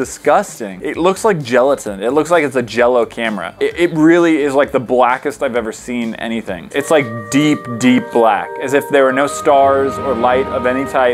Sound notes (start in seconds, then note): none